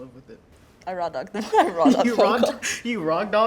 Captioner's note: laughing